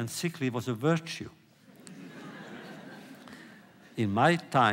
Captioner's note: laughter